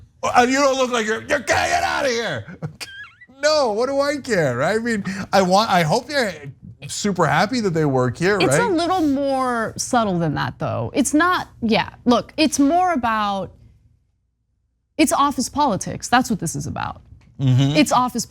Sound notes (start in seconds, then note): 3.1 laugh